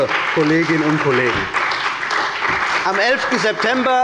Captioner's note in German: Beifall bei der CDU und dem BÜNDNIS 90/DIE GRÜNEN